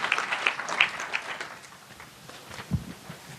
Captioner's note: applause